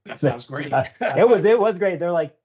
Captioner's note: laughing